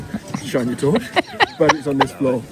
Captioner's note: laughs